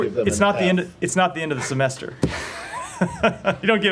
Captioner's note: laughter